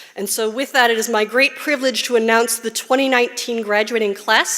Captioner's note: none